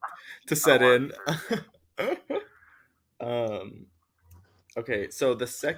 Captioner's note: laughs